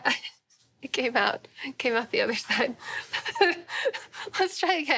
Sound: laughing

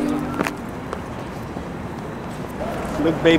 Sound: footsteps pattering

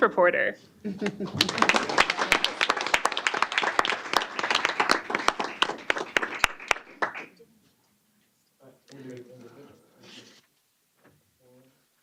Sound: applause

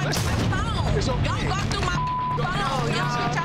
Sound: beep

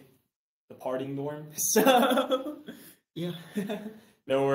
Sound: chuckles

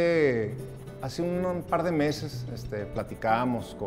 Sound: scribbling

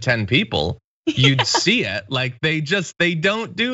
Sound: laugh

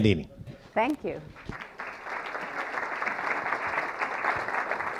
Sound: audience applauding

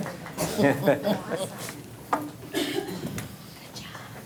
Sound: laughing

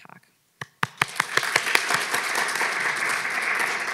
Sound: audience claps

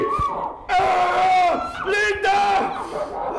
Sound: screams

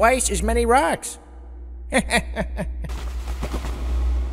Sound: chuckles, wings flapping away

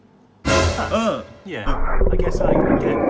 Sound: monster snarls

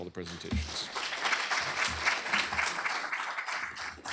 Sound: applause

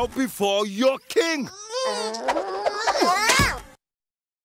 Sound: grunting in effort

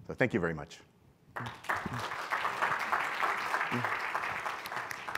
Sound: audience applauding

